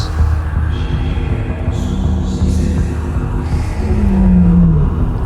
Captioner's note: mysterious whispering